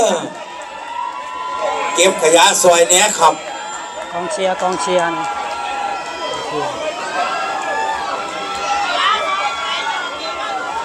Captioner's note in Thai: ปรบมือ